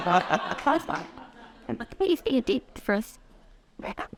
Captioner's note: laughter